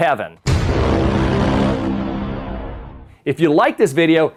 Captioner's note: stamp pounds